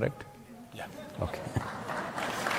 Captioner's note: laughter/Applause